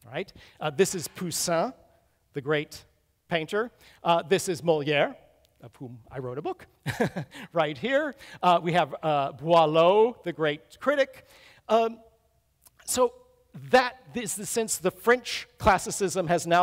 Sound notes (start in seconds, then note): 6.8 chuckles